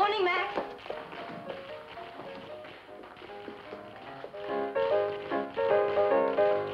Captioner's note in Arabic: موسيقى بيانو مبهجة; صوت أحذية التاب